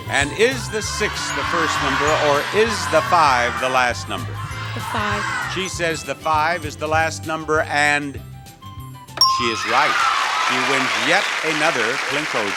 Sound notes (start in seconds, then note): 9.2 bell dings